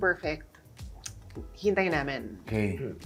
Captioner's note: clicks tongue